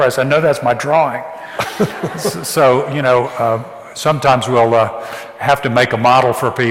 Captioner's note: audience laughs